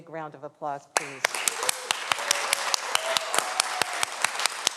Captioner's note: everyone applauds